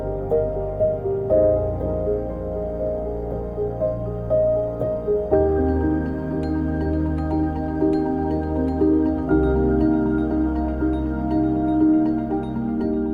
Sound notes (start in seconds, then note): none